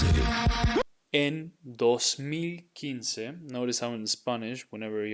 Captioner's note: speaking in Spanish